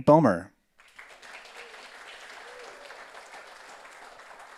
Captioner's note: audience applauds